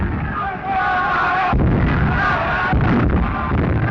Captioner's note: all yelling